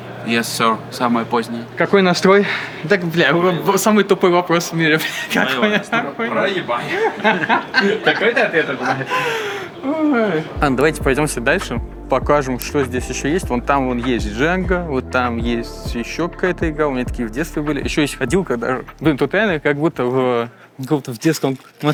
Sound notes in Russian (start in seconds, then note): 6.8 смех